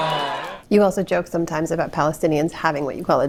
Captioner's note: laughter